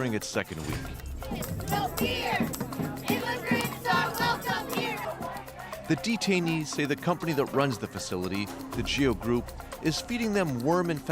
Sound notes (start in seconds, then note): 1.1 chanting